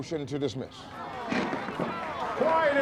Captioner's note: applause